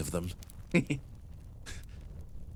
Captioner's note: Etete Giggle